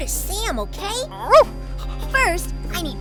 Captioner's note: Scout barks